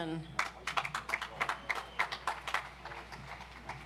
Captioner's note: audience applauds